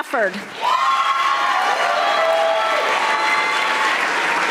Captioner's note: audience applauding